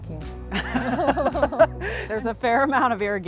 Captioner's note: laughs